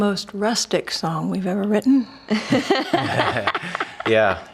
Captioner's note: laughing